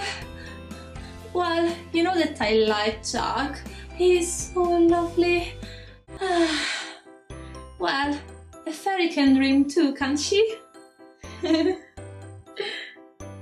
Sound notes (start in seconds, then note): 6.2 sigh; 11.4 giggling